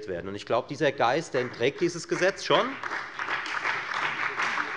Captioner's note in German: Beifall bei der FDP und der SPD